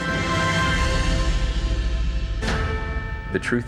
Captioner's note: dramatic sound effects